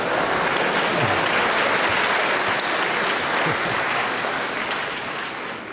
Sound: applause

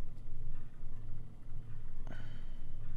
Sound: sighs

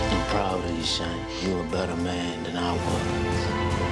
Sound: none

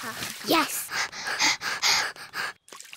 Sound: both panting

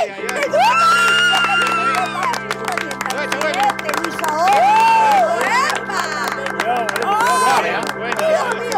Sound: applause

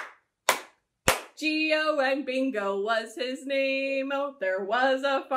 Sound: clap, clap, clap

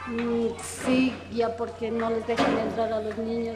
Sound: non-english speech

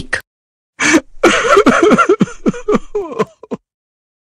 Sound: Gingerbread Person cries

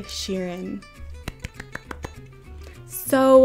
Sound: claps

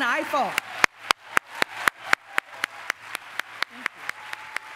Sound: applause

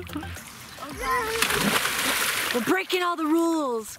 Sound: splashing

